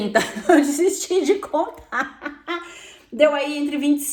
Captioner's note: laugh